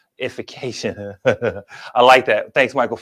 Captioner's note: chuckles